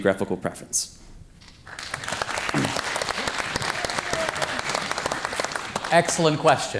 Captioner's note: audience applause